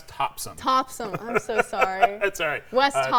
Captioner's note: laughing